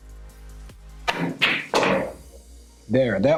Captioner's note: balls clanging